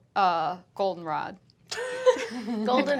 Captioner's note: laughing